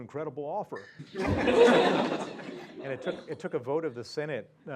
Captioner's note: laugh